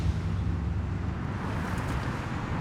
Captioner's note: traffic whooshing